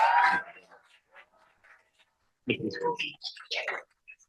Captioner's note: cheering